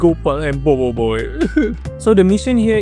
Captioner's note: sobs